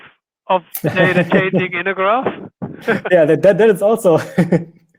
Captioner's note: laughing